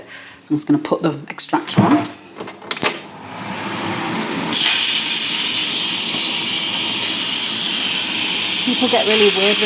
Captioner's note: extractor fan whirring